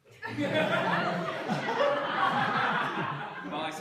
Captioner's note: laughter